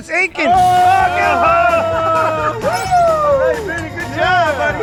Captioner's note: all shout